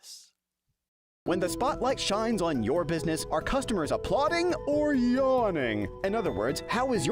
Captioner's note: voiceover